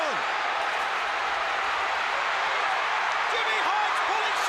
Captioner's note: crowd cheering